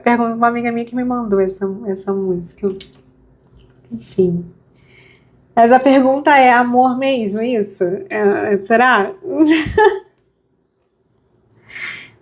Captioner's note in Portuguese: risadas